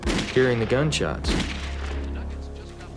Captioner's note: gunshots